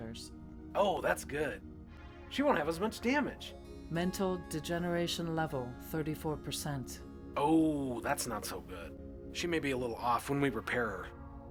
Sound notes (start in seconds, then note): 3.5 computer Voice